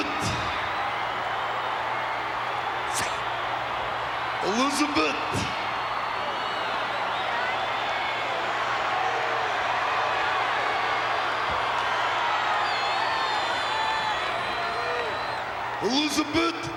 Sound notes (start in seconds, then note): 6.6 applause